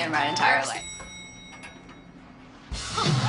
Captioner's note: dings